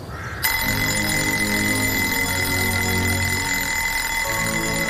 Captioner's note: Ceasul alarmă sună